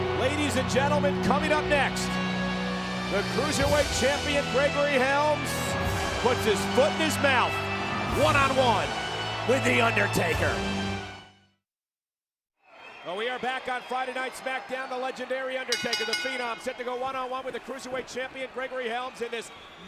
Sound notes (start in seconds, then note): 15.7 bell rings